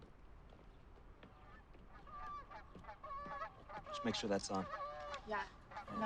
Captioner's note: birds squawking